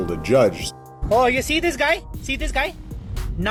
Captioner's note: man with Indian accent